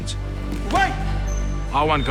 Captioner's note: grunting